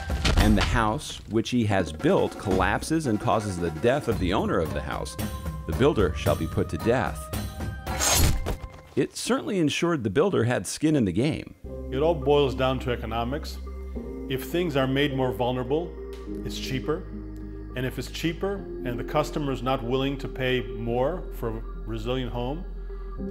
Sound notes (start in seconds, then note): 7.9 axe slashing; 8.1 thud